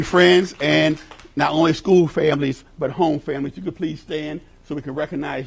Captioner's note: applause